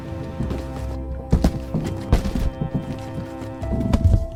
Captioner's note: soft banging